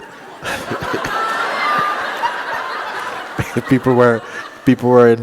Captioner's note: laughter